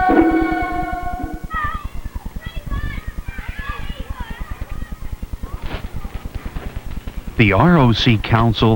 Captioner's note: children playing